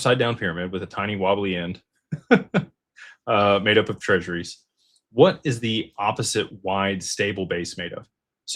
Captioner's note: laughter